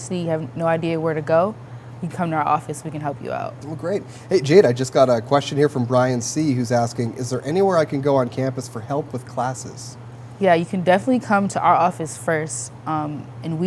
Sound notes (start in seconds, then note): none